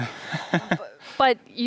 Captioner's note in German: lacht